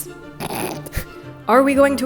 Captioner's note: snorting